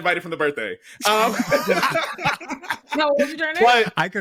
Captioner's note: laughter